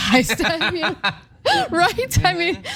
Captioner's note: laugh